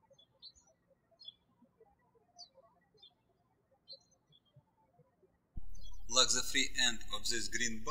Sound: birds chirping

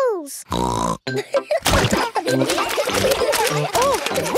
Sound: snorting; laughter

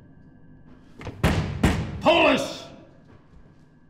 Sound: pounding

